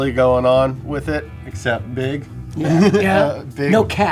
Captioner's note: laughs